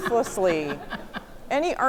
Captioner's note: audience laughing